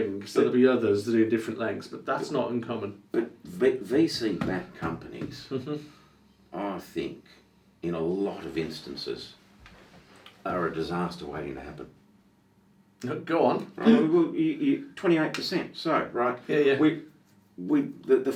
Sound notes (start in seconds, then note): 13.8 laughs